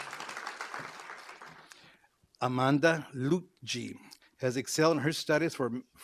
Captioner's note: applause